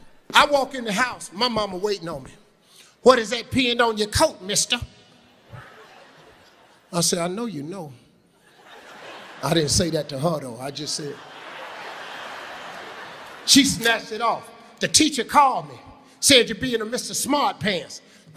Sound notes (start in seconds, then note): 11.6 audience laughing